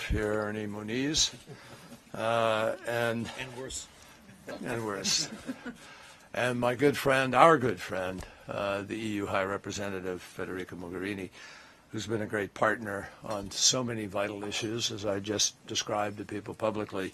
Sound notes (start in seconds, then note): 4.9 laughter